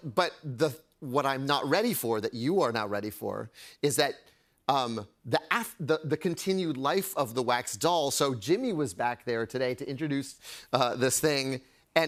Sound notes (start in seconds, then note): none